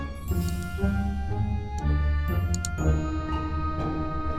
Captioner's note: keyboard clicks